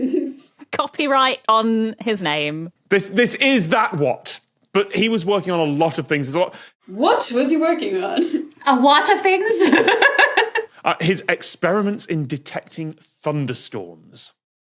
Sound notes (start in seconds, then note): 9.8 guffaws